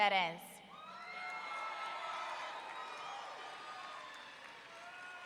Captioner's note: audience cheering